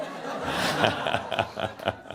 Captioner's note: laughter